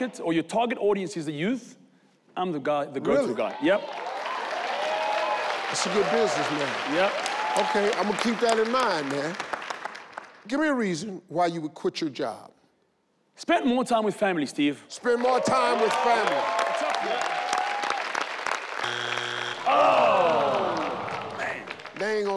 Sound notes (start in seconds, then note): 3.4 audience cheer; 15.1 all clap; 18.8 buzz sound